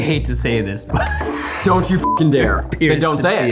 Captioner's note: beeping; laughs